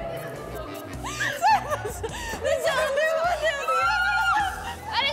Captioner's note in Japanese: 極限の恐怖に笑いが出る